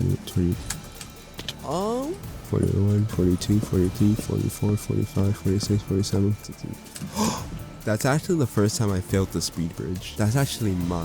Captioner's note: gasp